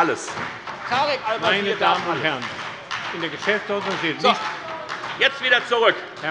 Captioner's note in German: Beifall bei der FDP und bei Abgeordneten der SPD